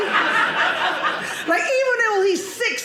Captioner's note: audience laughing